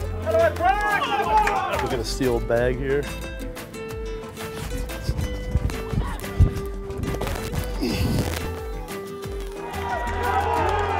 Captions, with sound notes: We got a steel bag here. - (grunts)